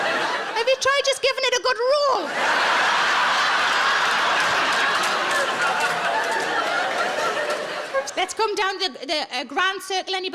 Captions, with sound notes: Have you tried just giving it a good roll? (audience laughing) Let's come down to the grand circle, anybody?